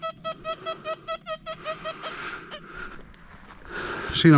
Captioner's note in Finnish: naurua